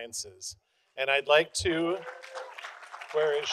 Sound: audience applauding

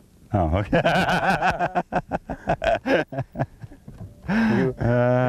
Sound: laughter

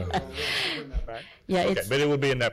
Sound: laughs

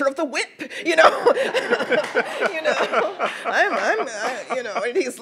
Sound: everyone laughs

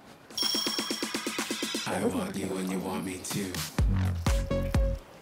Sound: bling bling

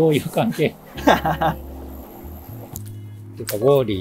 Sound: laughs

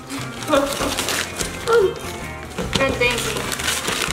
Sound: paper ripping

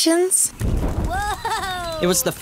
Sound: fire ignites

